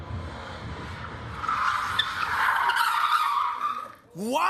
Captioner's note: tires screeching